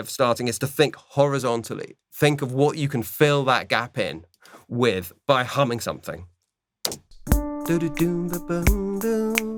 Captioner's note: hums